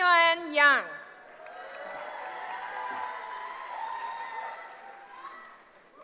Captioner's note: cheering